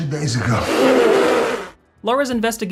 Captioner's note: laugh spitting